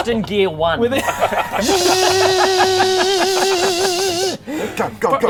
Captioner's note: zscsssssccsccccscccsssscsssscscsssscsccsssccsh